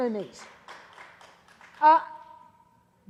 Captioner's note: clapping